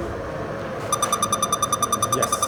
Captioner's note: machine beeps